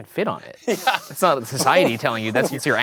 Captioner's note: laughs